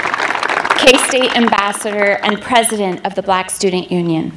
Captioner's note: applause